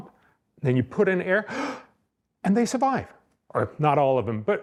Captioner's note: inhaling